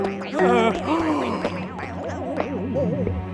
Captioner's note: Adam gasping